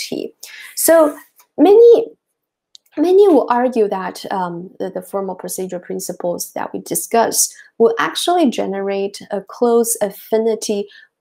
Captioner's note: click